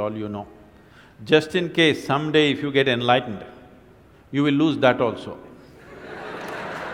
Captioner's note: laughter and Applause